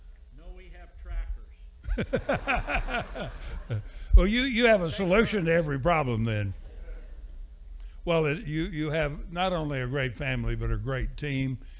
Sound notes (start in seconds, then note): 1.9 audience laughing